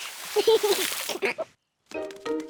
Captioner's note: giggles